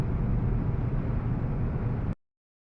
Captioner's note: air conditioning